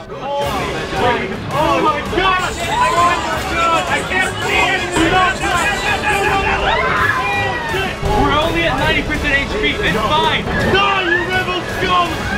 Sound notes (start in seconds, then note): 6.5 shrieks of terror